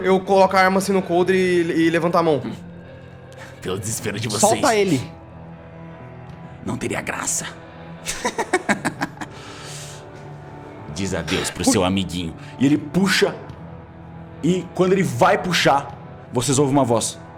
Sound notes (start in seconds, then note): 8.0 laughs